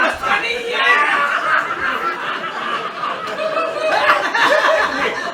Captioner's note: both laugh helplessly